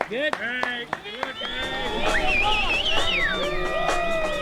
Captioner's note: cheering